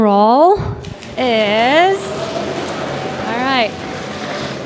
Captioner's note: audience cheering and banging